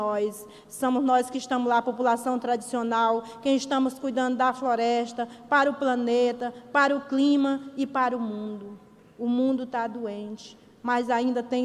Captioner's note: speaking foreign language